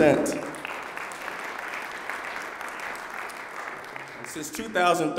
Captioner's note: applause